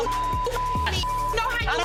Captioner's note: beep